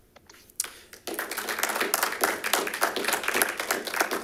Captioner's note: audience clapping